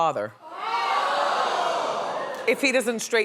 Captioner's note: audience gasping